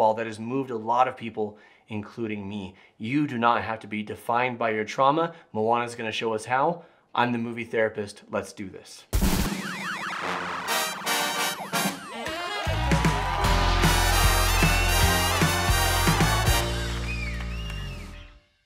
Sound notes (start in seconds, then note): 10.1 crowd cheering; 10.2 upbeat jazz music